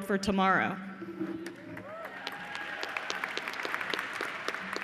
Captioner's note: cheers and applause